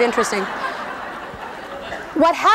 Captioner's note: laughing